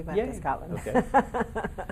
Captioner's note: laughing